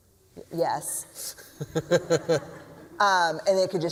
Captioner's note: laughter